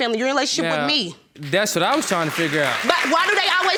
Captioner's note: audience applauding